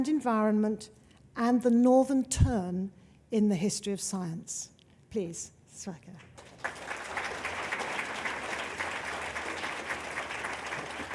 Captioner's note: applause